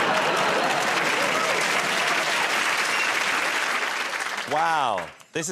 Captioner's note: laughter; cheers and applause